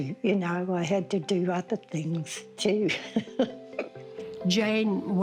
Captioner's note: laughs